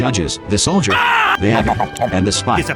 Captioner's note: Russian sandvich eating noises